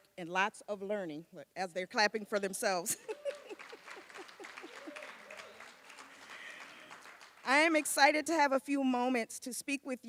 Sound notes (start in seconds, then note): 2.9 laughs; 3.1 applause